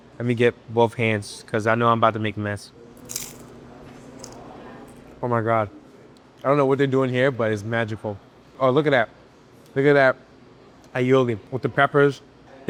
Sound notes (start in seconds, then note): 3.0 food crunching